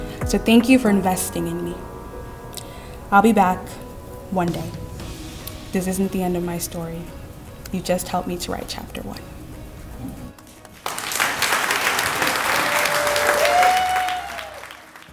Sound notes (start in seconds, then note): 10.6 crowd applauding